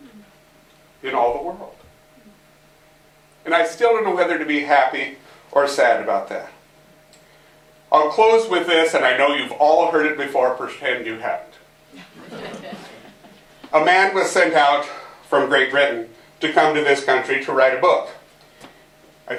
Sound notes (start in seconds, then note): 11.9 laughter